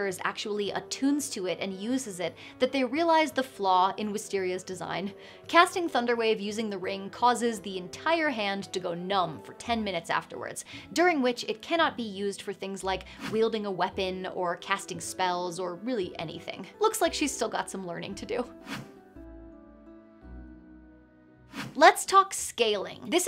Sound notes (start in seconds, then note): 18.6 air whooshing; 19.6 gentle inspirational music continues